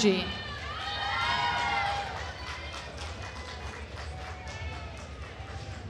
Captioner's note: attendees cheering and applauding